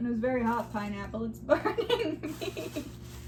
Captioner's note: laughing